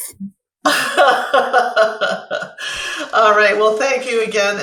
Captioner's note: laughs